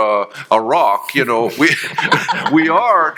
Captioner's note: panelists chuckling